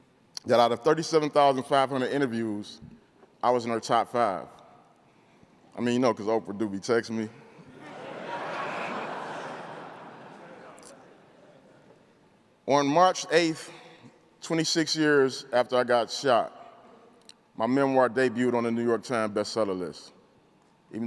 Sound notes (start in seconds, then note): 7.6 crowd laughing